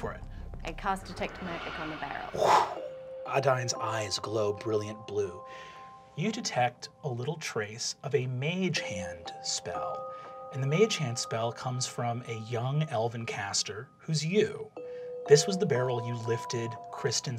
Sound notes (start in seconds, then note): 0.6 whooshing sound effect; 1.8 hisses air